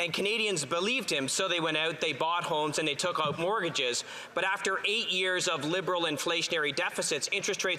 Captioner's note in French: voix de l'interprète